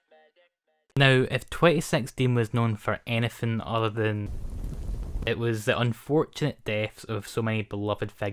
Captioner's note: fire noises